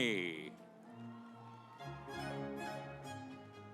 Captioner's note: audience applauds; stately music